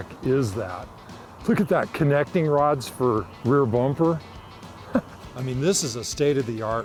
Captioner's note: laughs